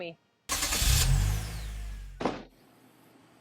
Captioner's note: whoosh; car door close